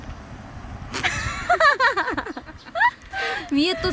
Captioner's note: once again, a laugh that suggests failure